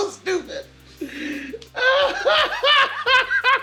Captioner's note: both laugh